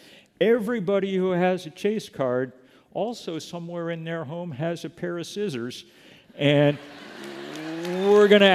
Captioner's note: laughter